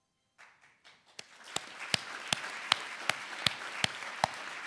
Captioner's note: audience applauding